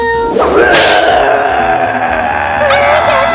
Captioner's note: monster roars